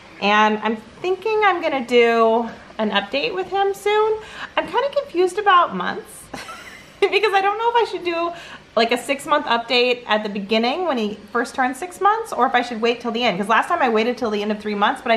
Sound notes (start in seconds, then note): 6.3 chuckles